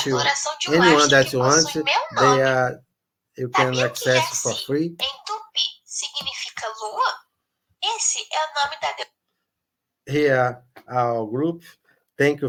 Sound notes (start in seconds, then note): 5.7 characters speaking in foreign language